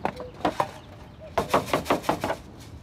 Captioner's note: cuckoo calls